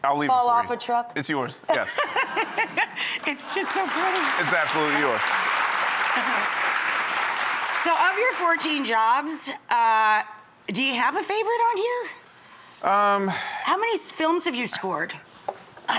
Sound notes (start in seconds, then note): 2.1 laughs; 5.4 audience clapping